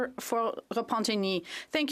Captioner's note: speaking French